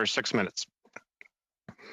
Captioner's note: speaking French